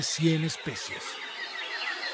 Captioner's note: birds calls